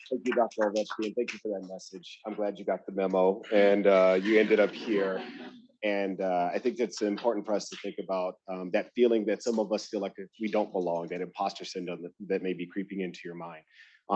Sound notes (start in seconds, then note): 2.2 attendees laughing